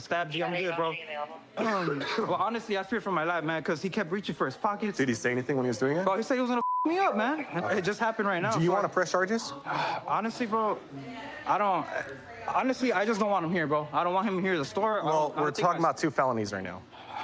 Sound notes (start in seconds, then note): 1.5 coughs